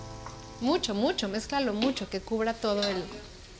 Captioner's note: speaking Spanish